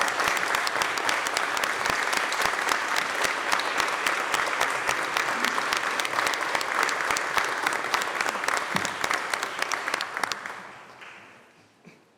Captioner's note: applause